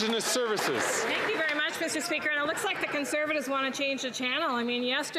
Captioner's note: some Applause